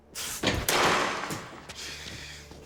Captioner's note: crashing